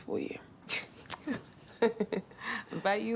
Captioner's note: both laughing